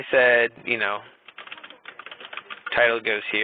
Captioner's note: keyboard clicking